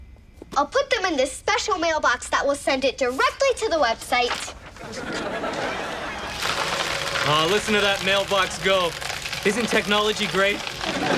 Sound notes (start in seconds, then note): 4.7 audience laughs; 6.5 buzzing; 10.2 audience laughs